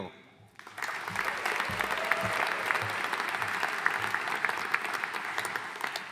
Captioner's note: audience cheering and applauding